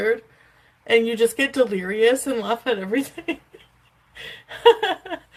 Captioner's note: laughs